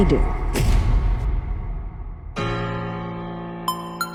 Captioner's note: booming and crashing